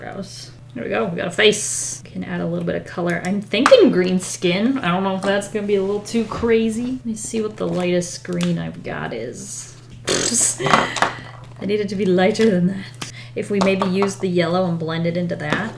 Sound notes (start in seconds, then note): 10.3 laughs